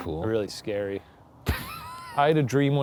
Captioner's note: laughs